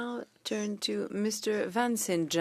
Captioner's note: speaking French